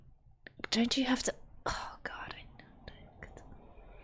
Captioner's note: whispers